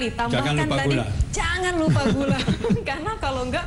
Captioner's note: non-english speech; laughter